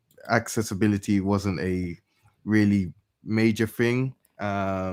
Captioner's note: none